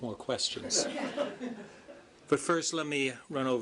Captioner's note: laughter